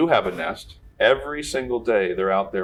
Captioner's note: none